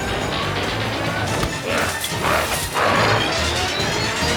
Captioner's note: reel whirring